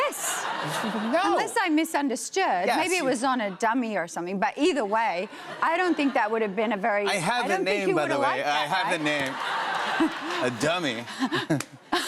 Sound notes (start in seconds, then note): 8.9 laughter; 8.9 laughs; 11.1 chuckles